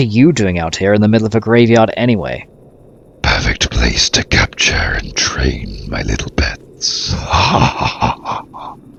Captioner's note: laughs